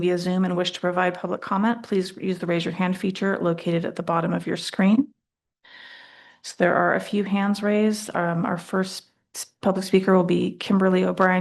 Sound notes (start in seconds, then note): none